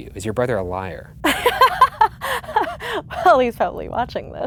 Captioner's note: laughs